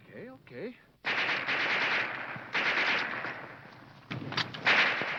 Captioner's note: guns firing